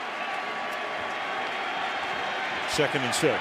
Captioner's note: cheering